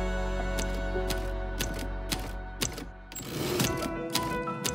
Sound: typewriter clacks

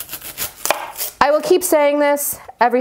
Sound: knife tapping

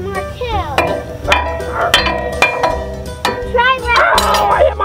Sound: metal clang

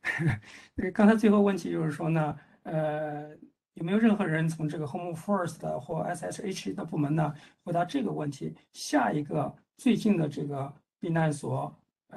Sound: speaks in Mandarin

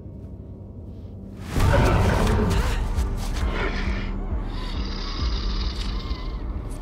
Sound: dramatic music; Luther grumbling

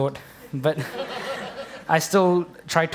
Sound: laughter

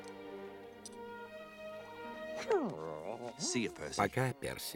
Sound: whines

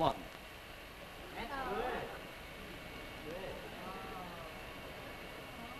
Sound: women ooh and ah

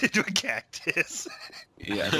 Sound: laughs

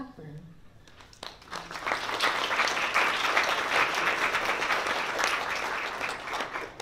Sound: applause

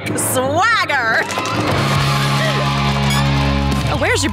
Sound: cheering

